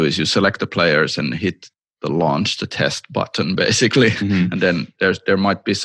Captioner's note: chuckles